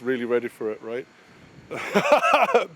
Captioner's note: laughing